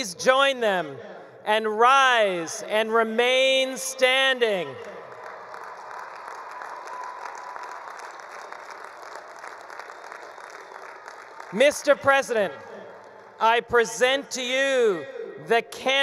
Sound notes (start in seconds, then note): 4.9 attendees applauding; 5.0 attendees cheering